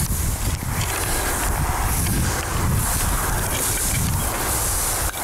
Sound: grass rustling, wind blowing

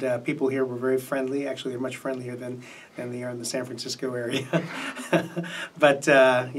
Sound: laughs

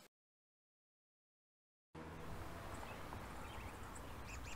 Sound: birds Chirping

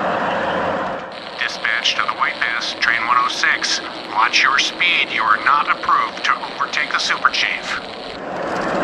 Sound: message on the radio

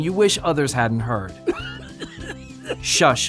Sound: coughing

